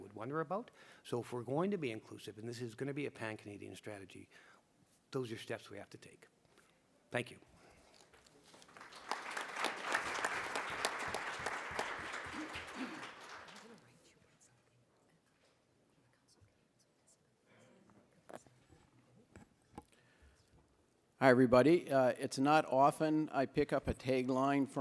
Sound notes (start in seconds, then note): 13.1 applause